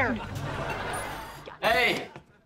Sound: laughing

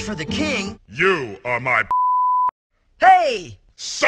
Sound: beeping

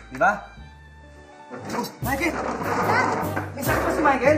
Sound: thudding

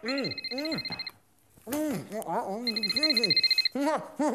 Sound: phone rings

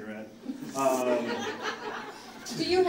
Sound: audience laughing

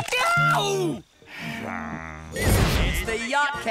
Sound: groaning

